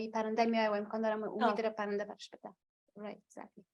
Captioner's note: foreign language